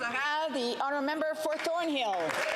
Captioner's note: some Applause